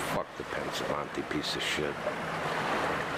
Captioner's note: speaking foreign language